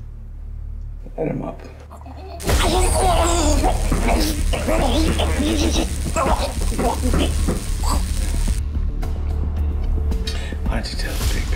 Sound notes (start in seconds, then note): 1.9 grunting; 2.4 sizzling